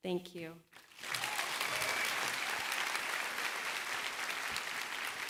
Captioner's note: applause